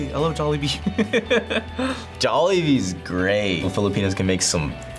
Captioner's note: laughs